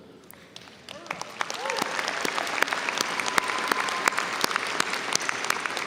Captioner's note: audience applauding